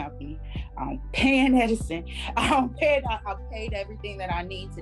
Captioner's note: chuckles